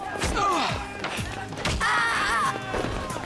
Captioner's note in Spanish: gritos; gruñidos; Gritando